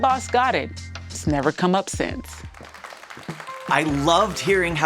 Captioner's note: crowd clapping